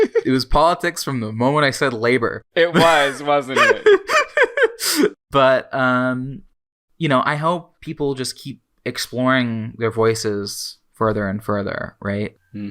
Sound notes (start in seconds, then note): 0.0 laughs; 0.0 both laugh; 2.7 laughing